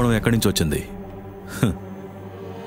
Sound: laughing Cunningly

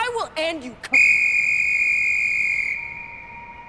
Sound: whistle

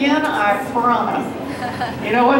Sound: mild laughter

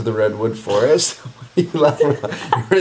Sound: laughs

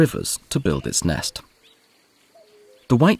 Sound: sounds of nature

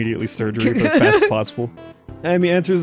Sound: cackles

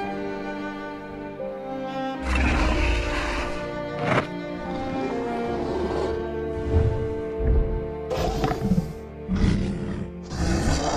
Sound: solemn music; Bumpy grumbling

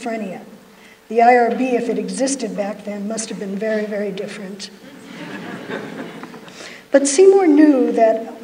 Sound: laughter

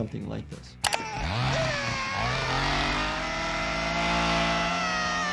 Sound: chainsaw buzzing

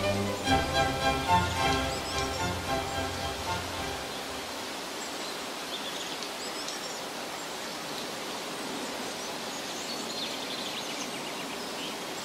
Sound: birds chirping

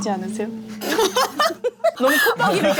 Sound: burst out laughing

